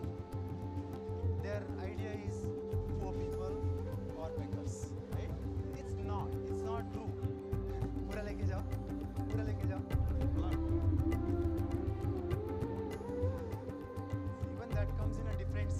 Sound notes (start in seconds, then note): 7.4 speaking foreign language